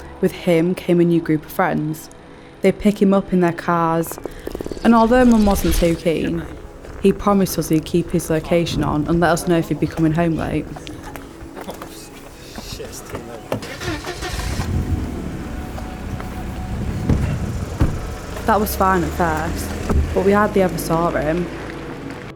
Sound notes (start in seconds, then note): 11.4 chatter; 13.6 engine revs